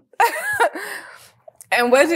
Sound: laughs

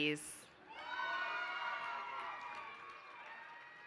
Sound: applause

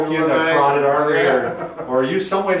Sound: laughs

